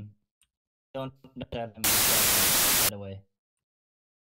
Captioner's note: static